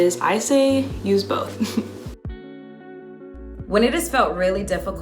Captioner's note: laughs